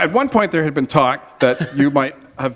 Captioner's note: laughter